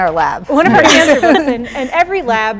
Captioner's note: chuckles